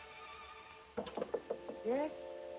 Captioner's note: knocking on door